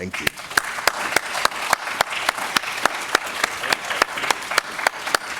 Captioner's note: audience applauding